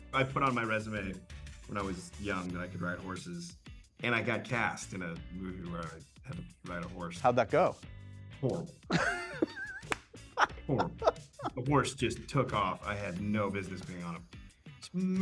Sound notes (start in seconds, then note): 8.9 laughs